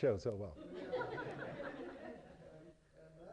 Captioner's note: laughter